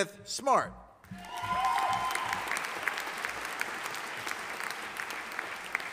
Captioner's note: audience applauding